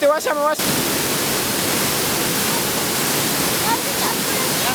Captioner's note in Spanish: ruido cascada